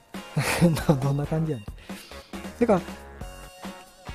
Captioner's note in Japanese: 笑い